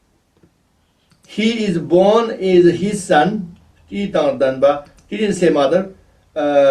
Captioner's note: tibetan